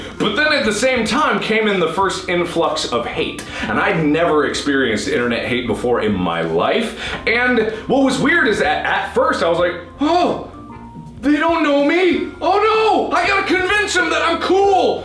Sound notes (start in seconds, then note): 9.8 high pitched voice